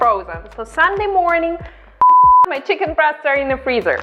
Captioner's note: beep